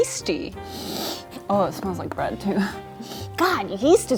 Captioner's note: sniffs; sniffs